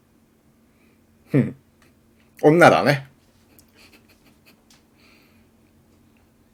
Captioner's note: laughter